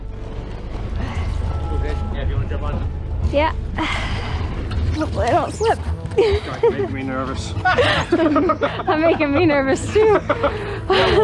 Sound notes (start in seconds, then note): 3.7 sighs; 6.1 laughs; 10.4 laughing